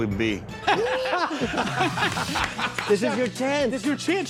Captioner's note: laughing